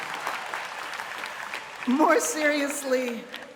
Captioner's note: cheers and applause